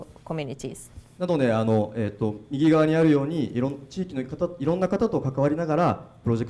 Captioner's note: speaking foreign language